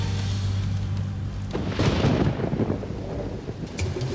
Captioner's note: thunder rumbling